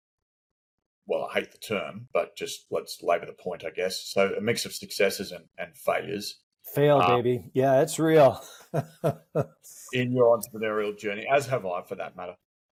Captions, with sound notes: Well, I hate the term, but just let's labor the point, I guess. So a mix of successes and failures... - Fail, baby. Yeah, it's real. (laughs) - in your entrepreneurial journey, as have I for that matter.